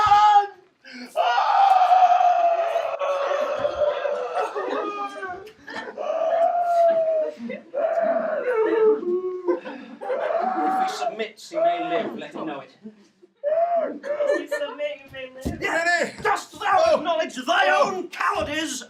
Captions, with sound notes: (screaming) - If he submits, he will live, let him know it. - He's submitting then. - Dost thou acknowledge thy own cowardice